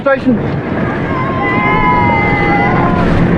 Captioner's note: cheerers